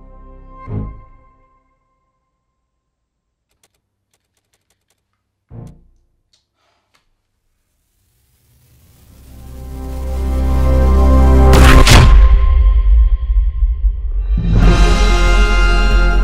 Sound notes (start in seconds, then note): 3.5 rapid Button Clicking; 10.8 sci-Fi Explosion